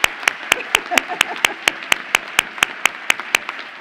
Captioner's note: laughs